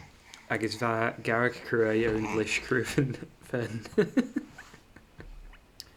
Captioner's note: baby burping noises